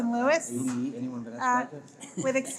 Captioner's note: people chattering